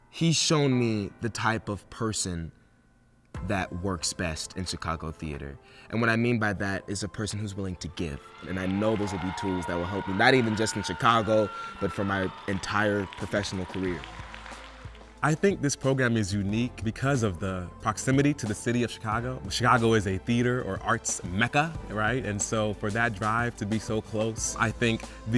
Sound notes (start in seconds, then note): 13.8 audience cheering